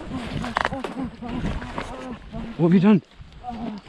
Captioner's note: groaning